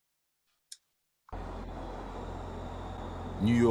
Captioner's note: traffic noise